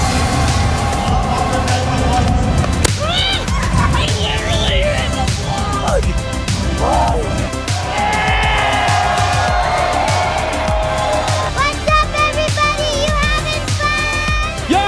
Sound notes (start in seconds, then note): 0.2 ball thudding; 6.7 people clamoring